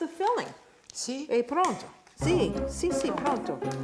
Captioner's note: speaking Italian